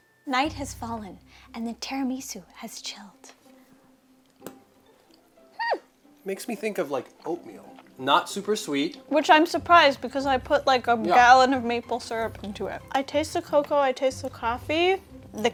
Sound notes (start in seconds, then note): 4.6 fork clattering